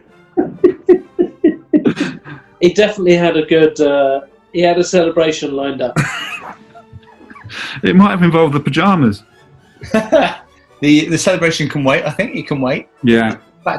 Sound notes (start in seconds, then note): 0.4 giggling; 5.9 chuckling; 9.8 laughing